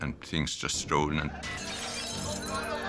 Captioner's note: glass breaks